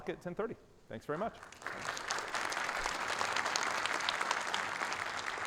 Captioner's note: audience applauding